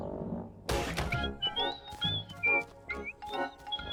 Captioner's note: whistling